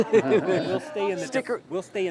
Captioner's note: laughs